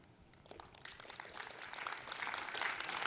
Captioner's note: applause